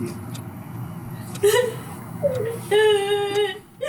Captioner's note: bursts into tears, cries out